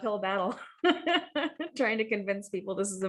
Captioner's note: laugh